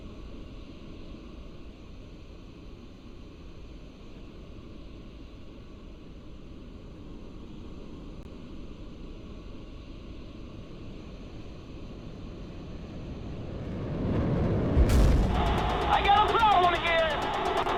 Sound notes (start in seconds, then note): 13.6 bang